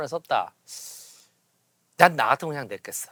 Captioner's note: inhaling